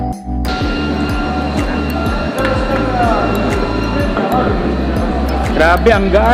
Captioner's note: upbeat music; people talking